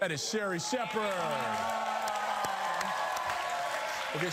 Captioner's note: cheering